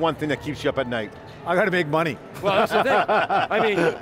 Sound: laugh

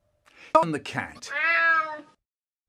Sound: meow

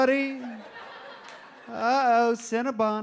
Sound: audience laughs

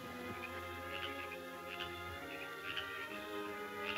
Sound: frog croaking

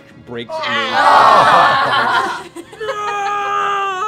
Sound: laughing

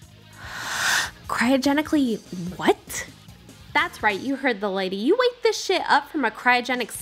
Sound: inhale

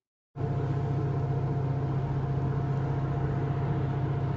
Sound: plane engine revving

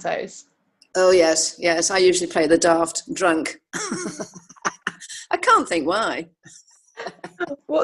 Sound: laughs

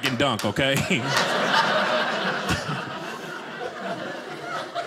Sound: audience laughing

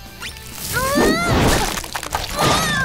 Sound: groaning

